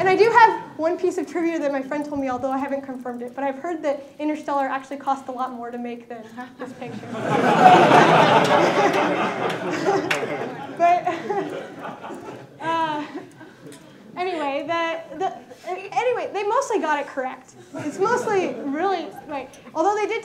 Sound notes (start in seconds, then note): 6.4 laughter